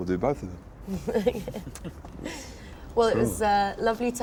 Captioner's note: laughs